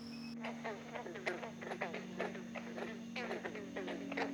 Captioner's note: bullfrog calls swell